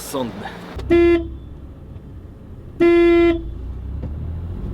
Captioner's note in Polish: Trąbienie samochodu